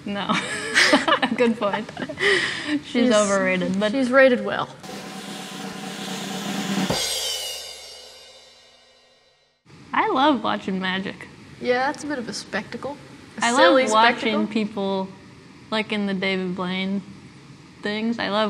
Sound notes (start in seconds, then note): 0.5 laughs; 4.8 drum rolling